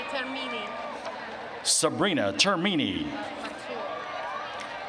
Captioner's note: cheers and applause